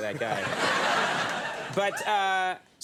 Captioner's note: audience laughter